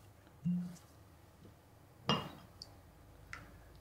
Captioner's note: cork pops